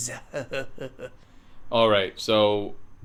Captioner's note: laughs